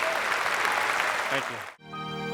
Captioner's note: applause